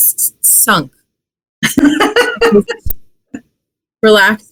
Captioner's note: laughs